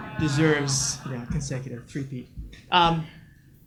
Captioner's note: audience laughs